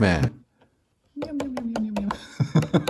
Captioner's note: happy Sounds!